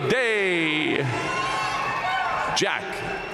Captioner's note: audience cheering and applauding